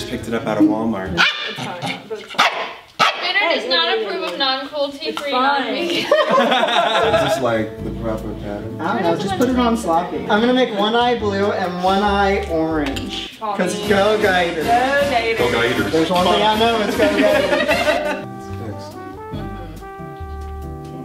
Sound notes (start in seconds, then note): 2.3 dog barks; 5.8 laughter